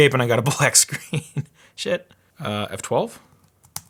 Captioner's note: laughing